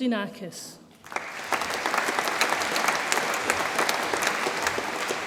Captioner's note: audience applauds